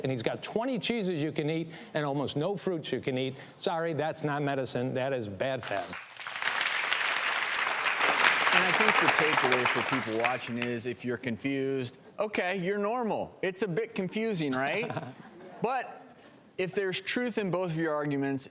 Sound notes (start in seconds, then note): 5.7 audience applauds; 14.6 laughs